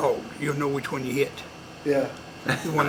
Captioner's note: laughter